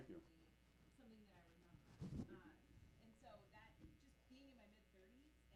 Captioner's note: audience member muttering